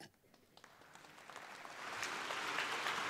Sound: applause

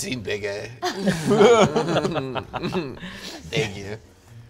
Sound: laughter

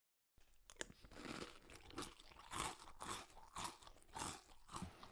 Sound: crunchy eating sound

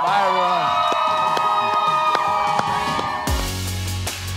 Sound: all cheering; upbeat music

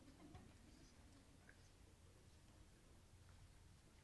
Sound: none

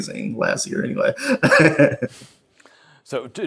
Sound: laughs

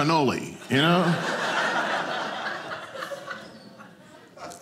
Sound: audience laughing

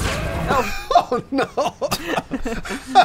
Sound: laughing

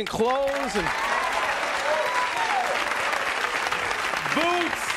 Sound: audience cheering and applauding

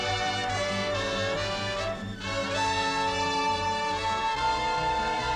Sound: none

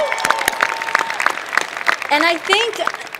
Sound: applause

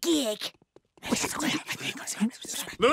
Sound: whispering

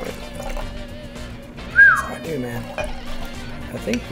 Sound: whistles wooo

